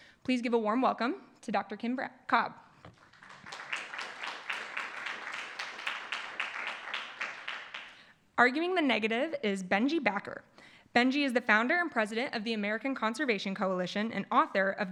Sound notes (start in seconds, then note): 3.0 applause